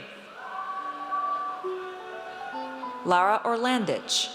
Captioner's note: audience cheers